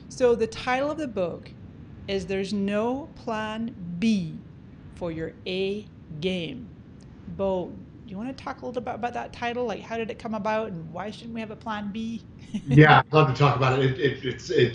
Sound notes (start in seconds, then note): 12.5 giggles